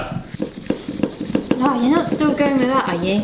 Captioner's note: paper scratching